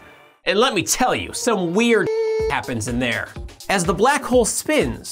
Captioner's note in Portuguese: bip